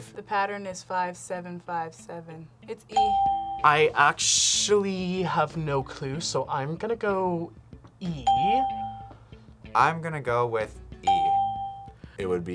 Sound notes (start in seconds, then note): 3.0 bell rings; 8.2 bell rings; 11.0 bell rings